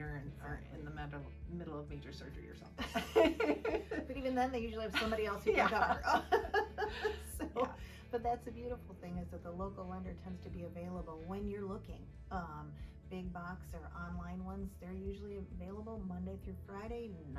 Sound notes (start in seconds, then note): 2.8 laughing